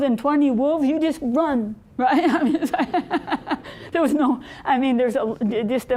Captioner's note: laughing